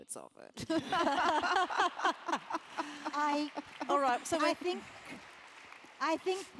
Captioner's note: laugh